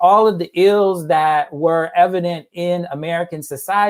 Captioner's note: none